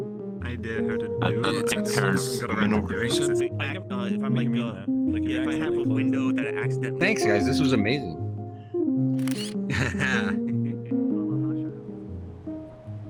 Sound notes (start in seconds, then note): 1.2 chatter; 9.2 camera shutter; 9.6 laughing